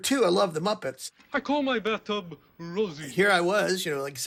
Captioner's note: soundbite of tv show, "sesame street"